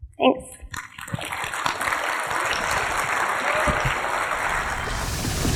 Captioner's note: audience applauding